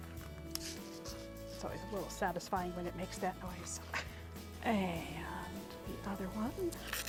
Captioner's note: Buscuit can pops open